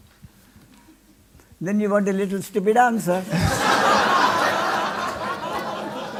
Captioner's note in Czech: smích